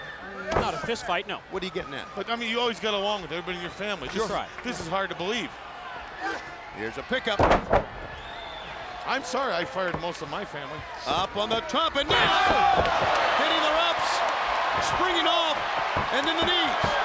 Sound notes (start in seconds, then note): 12.7 Buff shouting; 12.7 crowd cheering